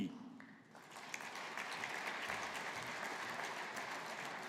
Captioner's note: audience applauding